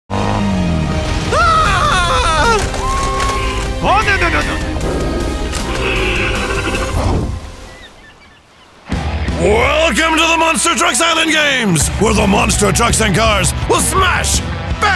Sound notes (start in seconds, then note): 1.3 screaming; 3.2 intense music plays; 6.1 roars